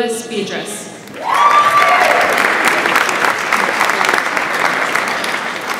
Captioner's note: audience applauds